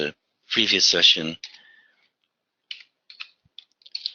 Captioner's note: typing